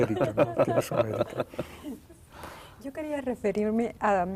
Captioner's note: risas